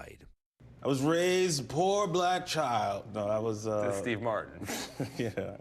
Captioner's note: laughter